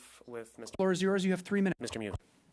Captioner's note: speaking French